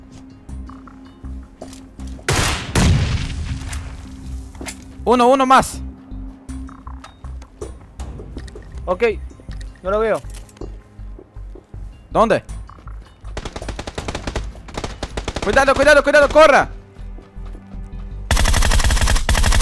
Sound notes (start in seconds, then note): 2.2 shots; 2.6 Explosion by Frag; 13.4 shooting; 18.3 shooting